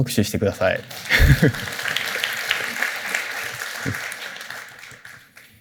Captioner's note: applause; chuckles